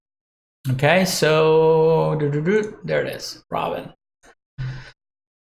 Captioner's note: hums